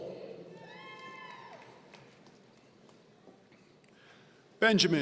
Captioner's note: audience cheering